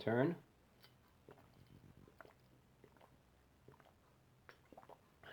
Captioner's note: sip